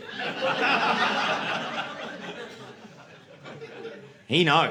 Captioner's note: audience laughing